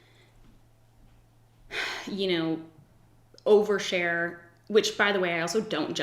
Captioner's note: sighs